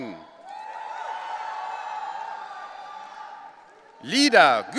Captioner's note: audience cheering